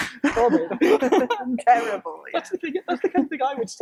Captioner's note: laughing